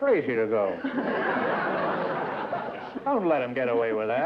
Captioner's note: laughter